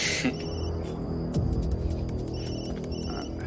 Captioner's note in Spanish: Suena celular